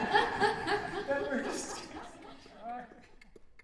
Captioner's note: laughing loudly